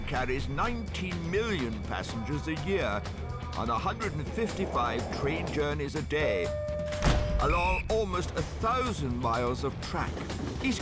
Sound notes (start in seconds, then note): 6.9 door banging; 7.4 whistle tweeting